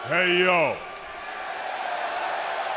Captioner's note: crowd cheering